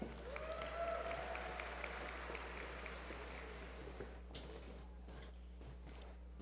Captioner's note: applause